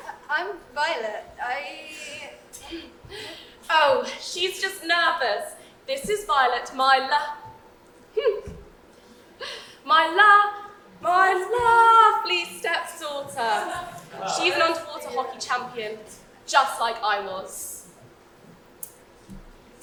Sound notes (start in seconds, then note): 3.4 laughs